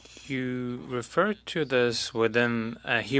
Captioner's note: speaking French